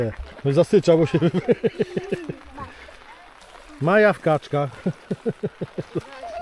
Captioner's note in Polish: śmiech